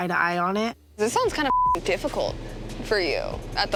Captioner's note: beep